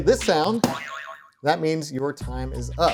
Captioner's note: buzzer boing